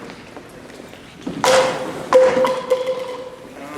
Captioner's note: cardboard tube falls